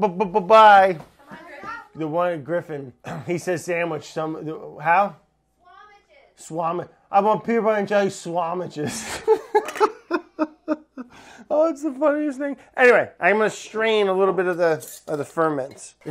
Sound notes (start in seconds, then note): 8.8 laughs